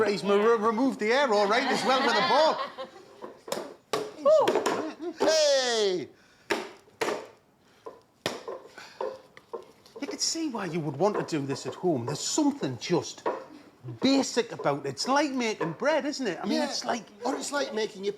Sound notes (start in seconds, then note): 1.3 laughter